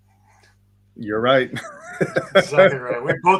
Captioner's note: laughs